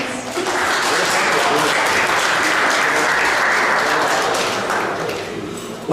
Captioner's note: applause